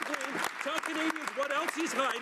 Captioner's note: some Applause